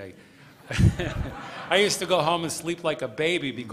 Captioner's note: laughter